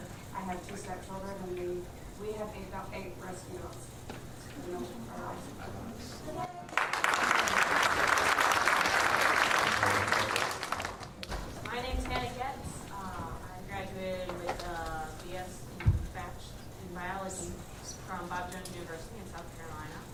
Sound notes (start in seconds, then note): 6.6 applause and a cheer